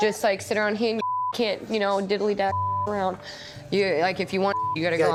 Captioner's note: beep; beep